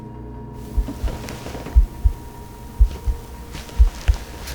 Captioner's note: heartbeat pulsating